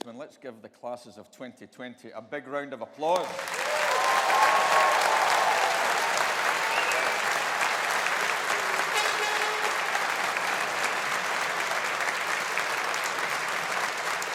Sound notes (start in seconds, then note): 4.2 audience applauding